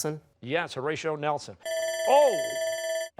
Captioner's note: buzzer